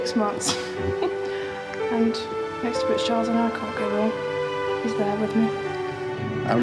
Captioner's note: laughs